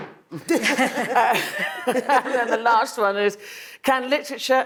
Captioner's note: panelists laughing